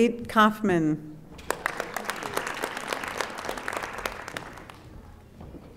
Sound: audience applauding

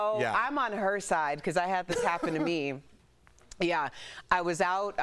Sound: laughter

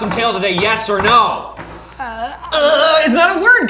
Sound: stammers

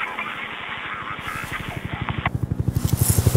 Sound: an approaching helicopter

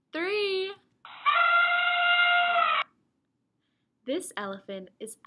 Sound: elephant trunk trumpets

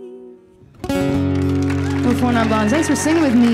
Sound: guitar flourish; audience applauding

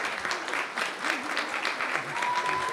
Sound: cheering and applause

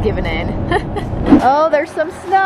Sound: chuckles

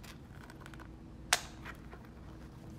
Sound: snap

